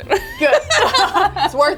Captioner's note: both laugh